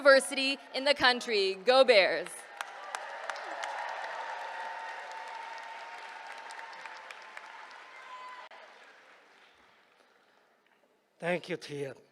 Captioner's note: applause